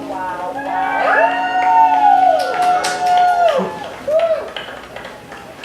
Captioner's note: cheering